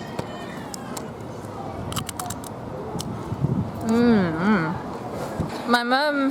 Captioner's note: crunch of nacho